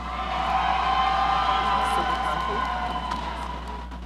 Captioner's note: audience cheering